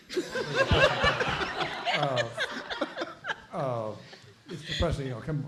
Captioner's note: everyone laughing